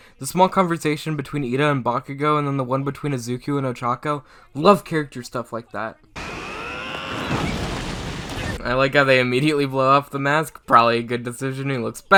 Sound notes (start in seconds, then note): 6.2 Bakugo screams